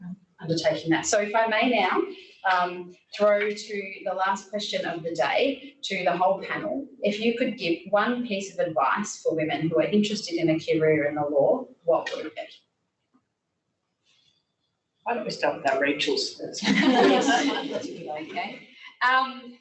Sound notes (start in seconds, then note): 16.6 laughter